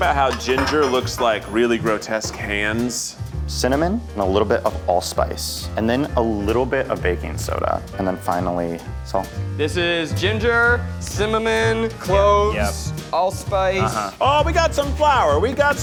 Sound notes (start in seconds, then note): none